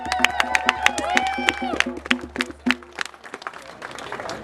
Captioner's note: clapping & cheering, drumming